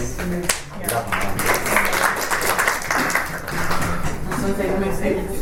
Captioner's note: panellists and audience applaud